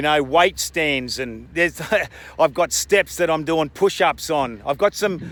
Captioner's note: chuckles